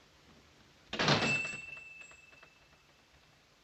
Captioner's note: bell chiming